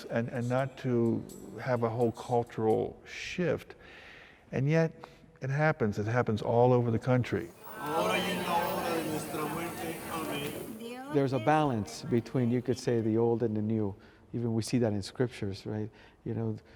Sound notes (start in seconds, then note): 8.7 people speaking Spanish